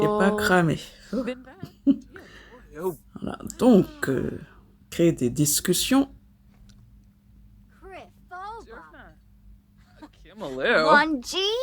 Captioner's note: laughs